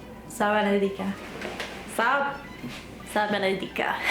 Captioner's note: foreign language